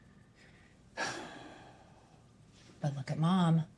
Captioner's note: sighs